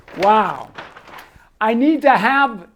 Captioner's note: paper rustles